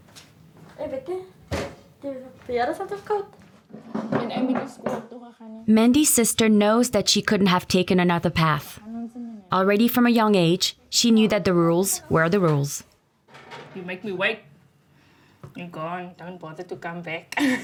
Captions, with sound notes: [Xhosa spoken audio]. Mandy's sister knows that she couldn't have taken another path. Already from a young age, she knew that the rules were the rules. You make me wait, you go and don't bother to come back.